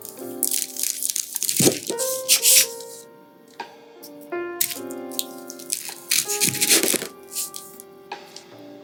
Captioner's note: crisp spring roll cutting